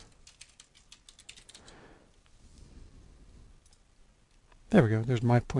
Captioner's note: typing